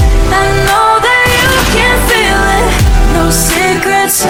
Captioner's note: gunshot sounds